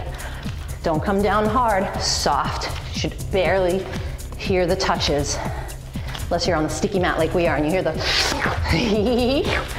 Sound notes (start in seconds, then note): 8.0 slurps; 8.6 giggles